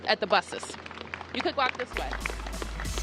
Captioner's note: applause